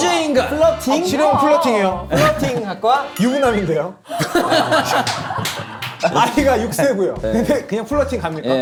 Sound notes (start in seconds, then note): 4.1 laughing